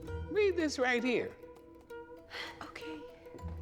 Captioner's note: reluctant gasp